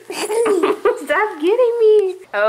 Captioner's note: laughs